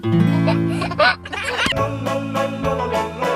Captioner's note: guitar strum; baby laughing; acapella music